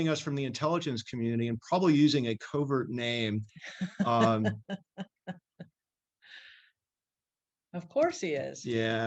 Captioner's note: laughs